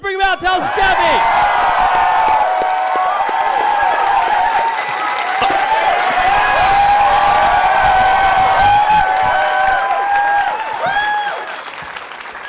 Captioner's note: cheering